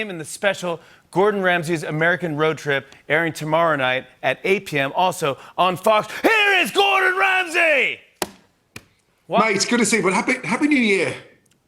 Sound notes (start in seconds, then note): 6.1 British accent